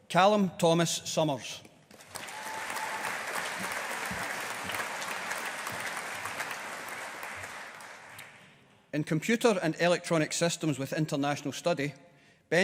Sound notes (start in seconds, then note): 1.9 audience applauding